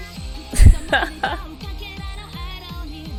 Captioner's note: laughs